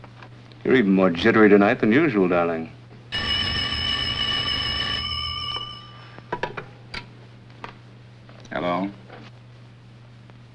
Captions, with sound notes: You're even more jittery tonight than usual, darling. [ Rings ] Hello.